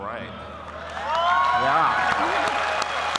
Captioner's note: applause